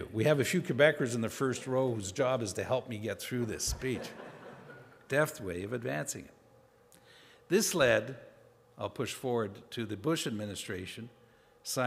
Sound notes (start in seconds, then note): 3.8 audience laughing